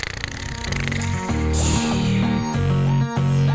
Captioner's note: snore